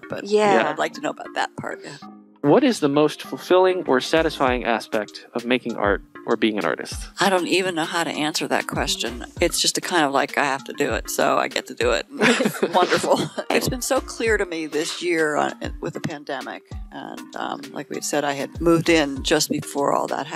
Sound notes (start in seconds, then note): 12.2 laughing